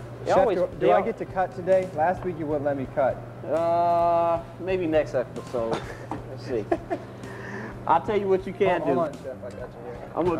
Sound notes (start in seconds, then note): 6.6 laughs